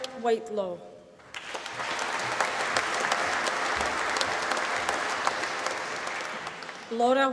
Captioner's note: applause